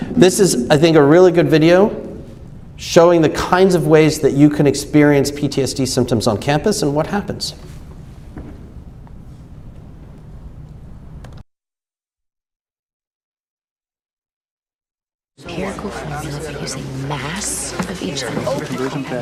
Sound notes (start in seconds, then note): 15.4 crowd chattering